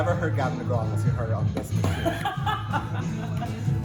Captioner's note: laughs; knocks on table